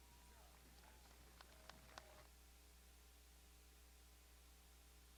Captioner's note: crowd applauding